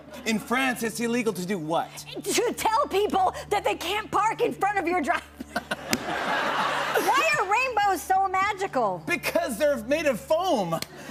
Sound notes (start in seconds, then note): 5.4 laughter